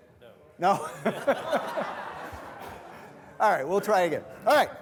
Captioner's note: all laughing